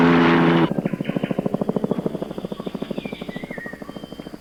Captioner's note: helicopter overhead